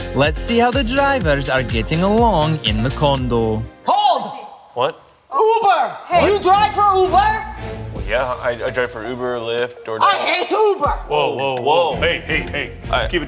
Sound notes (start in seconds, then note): 8.5 stammering